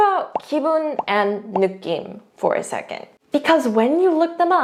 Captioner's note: speaks in Korean